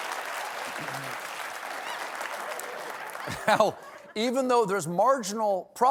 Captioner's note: applause